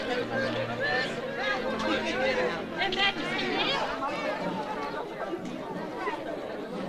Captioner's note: overlapping chatter; slow brass music